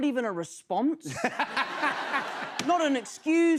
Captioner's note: laughter